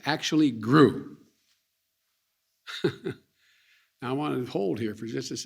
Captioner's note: laughs